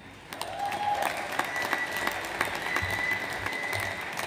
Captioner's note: audience applauds